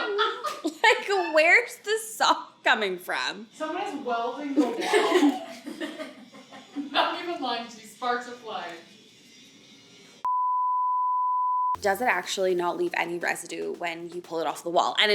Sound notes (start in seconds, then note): 0.0 laughs; 4.6 all laughs; 10.2 beep